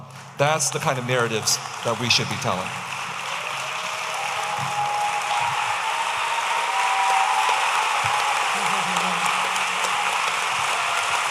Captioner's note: audience applauding and cheering